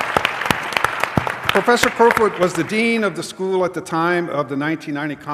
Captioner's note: applause